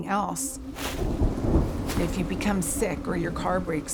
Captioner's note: thunder rumbles